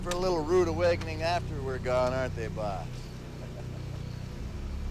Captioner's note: laughs